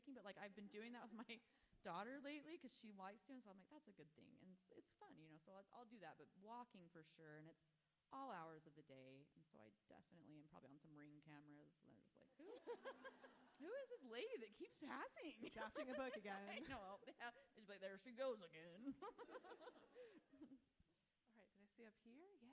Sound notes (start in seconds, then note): 12.6 audience laughing; 15.5 author laughs; 19.0 author laughs